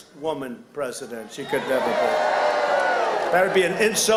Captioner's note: crowd jeering